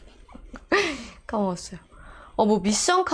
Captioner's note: laughing